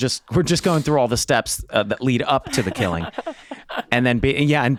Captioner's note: chuckling